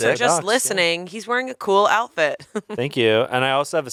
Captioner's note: chuckles